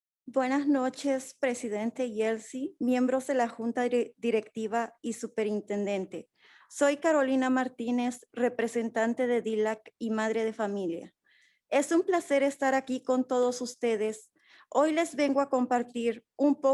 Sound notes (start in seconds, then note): 0.6 speaking in foreign language